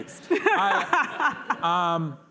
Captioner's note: laughter